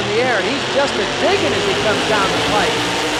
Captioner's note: voiceover